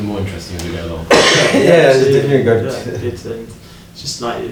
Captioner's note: coughs